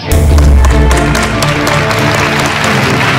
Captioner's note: All clapping